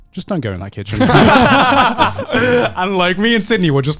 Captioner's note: men laugh